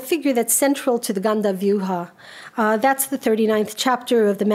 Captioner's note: speaks a foreign language; speaks a foreign language